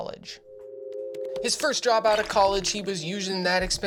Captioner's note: phone ringing